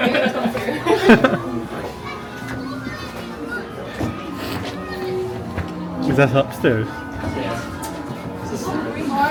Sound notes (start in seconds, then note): 6.0 laughs